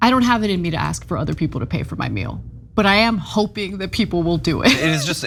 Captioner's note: laugh